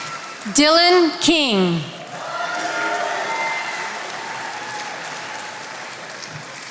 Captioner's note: attendees applauding